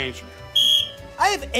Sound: whistle blows

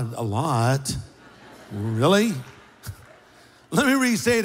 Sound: laughter

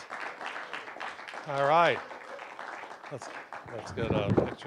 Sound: applause

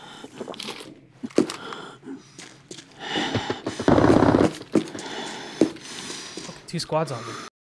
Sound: heavy breathing

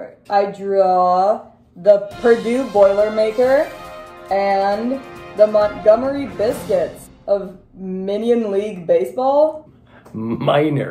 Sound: action music; laughing

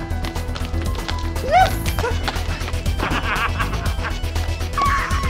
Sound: laughing

